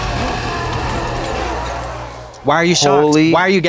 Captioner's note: cadaver roaring